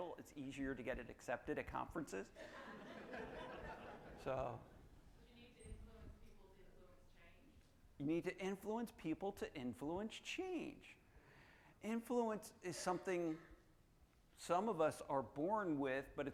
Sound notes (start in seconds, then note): 2.4 audience laughing